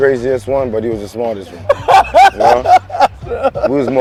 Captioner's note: laughing